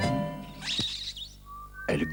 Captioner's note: sound of kiss